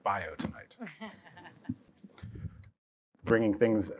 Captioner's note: laughter